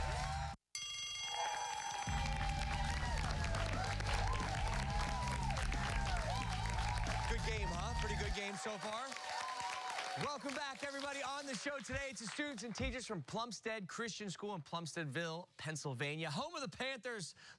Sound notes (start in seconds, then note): 0.7 bell rings